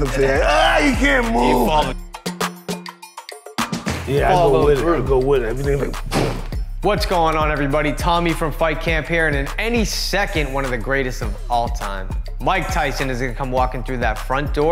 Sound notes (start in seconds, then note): 6.1 shot banging